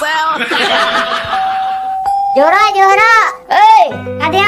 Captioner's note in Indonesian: tertawa